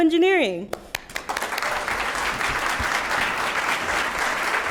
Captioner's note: applause